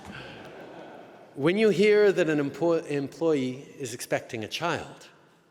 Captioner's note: laughter